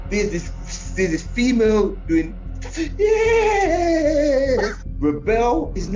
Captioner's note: imitates shrieking